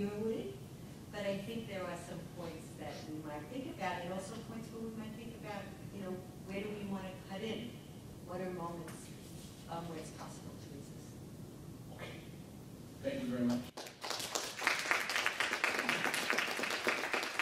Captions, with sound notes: But I think there are some points that we might think about and also points where we might think about where do we want to cut in? What are moments where it's possible to resist? - Okay, thank you very much. (audience clapping)